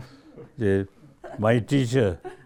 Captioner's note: all laugh